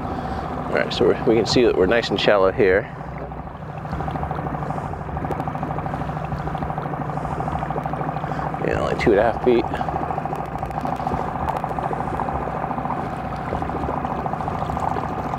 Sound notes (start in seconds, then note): 4.6 engine spluttering; 10.1 engine spluttering